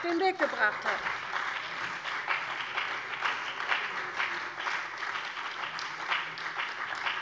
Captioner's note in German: Beifall bei der CDU und dem BÜNDNIS 90/DIE GRÜNEN